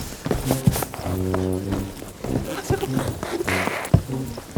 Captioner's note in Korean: 세상 요란한 발소리